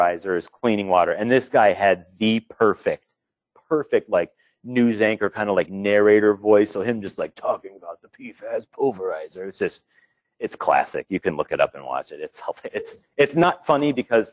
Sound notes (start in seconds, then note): 6.5 speaking in a dramatic lower octave voice; 10.5 talking in normal voice